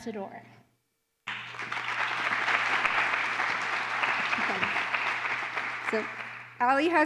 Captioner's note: applause